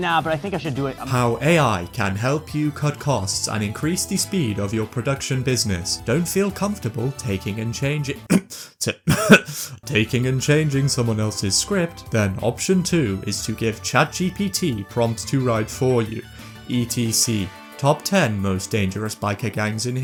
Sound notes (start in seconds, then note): 9.0 cough